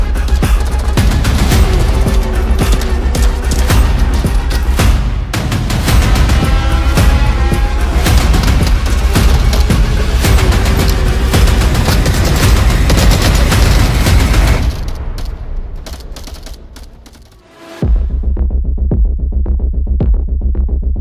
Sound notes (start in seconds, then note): 8.2 guns firing; 11.9 guns firing; 17.8 tense upbeat music